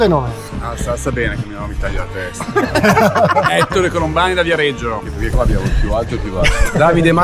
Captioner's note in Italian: risate